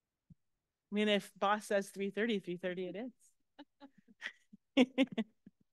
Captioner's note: laughs